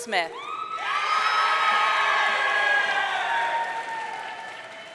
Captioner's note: audience cheering